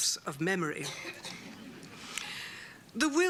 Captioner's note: laughter